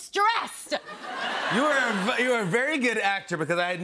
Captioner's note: laughter